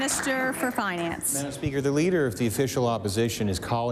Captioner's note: applause